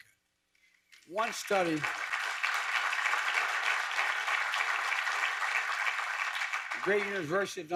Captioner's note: applause